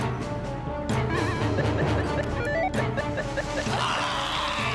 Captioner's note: beeping